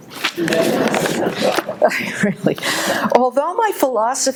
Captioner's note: audience laughing